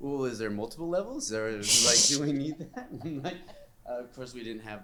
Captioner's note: laughter